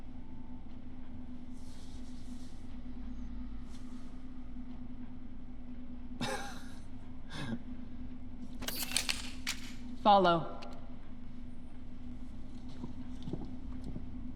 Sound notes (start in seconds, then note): 6.2 laugh; 8.6 rifle activating